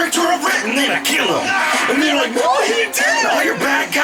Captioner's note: aaaagh!!!